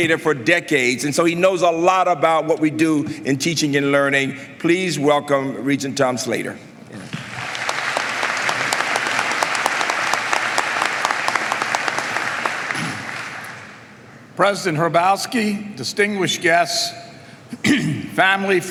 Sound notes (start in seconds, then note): 7.0 applause